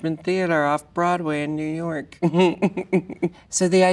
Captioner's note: laughs